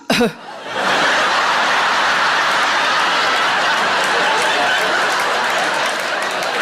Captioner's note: coughing; laughing